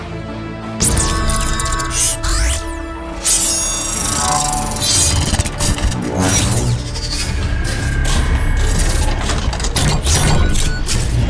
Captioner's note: epic Music; mechanical Sounds